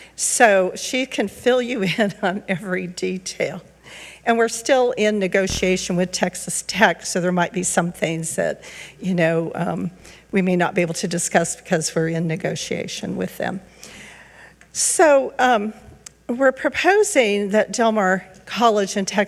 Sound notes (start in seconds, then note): none